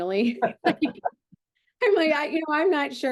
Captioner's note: both laughing